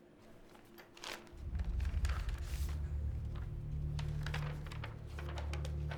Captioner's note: paper rustles